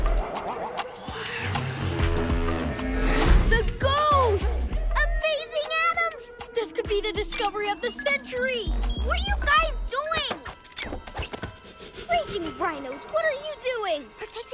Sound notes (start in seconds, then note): 1.1 growls